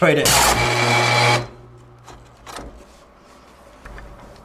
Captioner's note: loud whirring